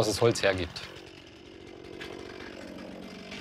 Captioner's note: chainsaw noise